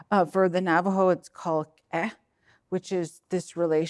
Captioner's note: speaking in foreign language